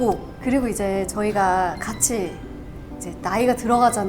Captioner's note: carefully explaining